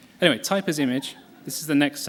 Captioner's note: laughter